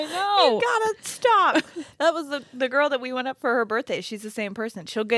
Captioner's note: none